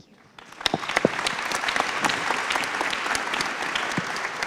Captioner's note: applause